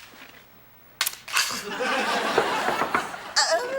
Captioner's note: Atoll exclaiming; door knocking; Atoll exclaiming